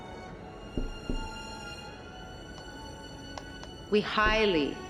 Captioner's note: tapping on glass